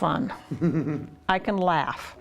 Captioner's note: laughs